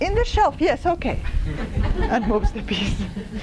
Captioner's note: laughter